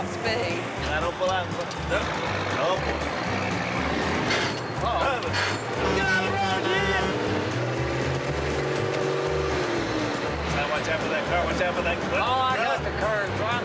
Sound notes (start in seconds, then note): 2.9 gears grind; 5.0 horn honks